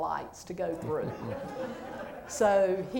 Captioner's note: laughter